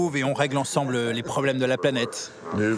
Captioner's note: laughs